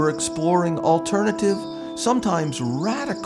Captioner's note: helicopter blades whirring